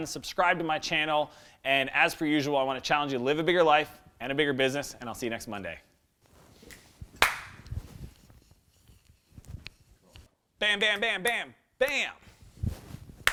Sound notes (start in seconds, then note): 7.2 claps; 7.2 snaps